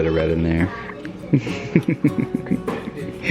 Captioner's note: laughs